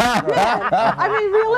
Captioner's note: laugh